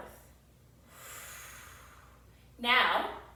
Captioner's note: exhales deeply